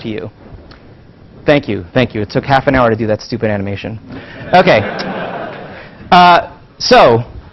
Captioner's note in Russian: Смех